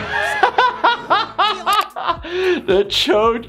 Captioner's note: laughter